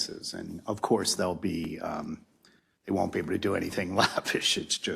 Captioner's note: laugh